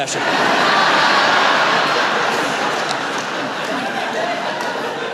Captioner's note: laughter